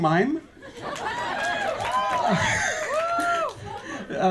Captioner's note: audience laughs and cheers